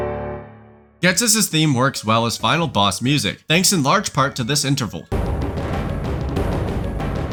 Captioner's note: bang